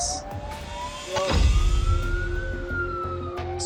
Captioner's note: siren wailing